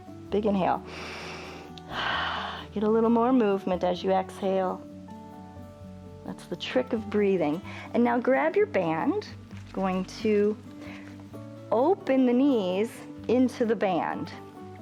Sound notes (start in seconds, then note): 0.8 inhales; 0.8 exhales